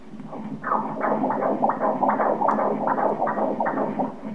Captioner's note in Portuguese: som dos batimentos cardíacos